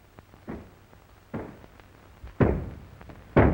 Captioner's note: knocking